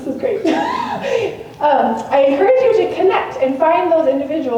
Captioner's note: laughs